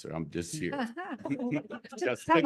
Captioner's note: laughter